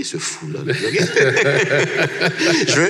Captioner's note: laughs